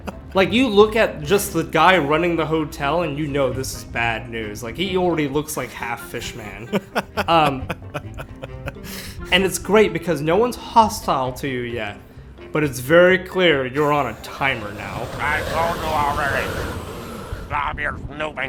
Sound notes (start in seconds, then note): 0.0 laughs; 6.2 chuckles